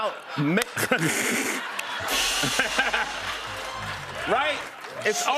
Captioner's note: laughter